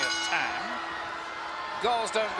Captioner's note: bell rings